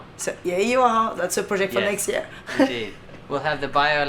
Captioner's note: chuckles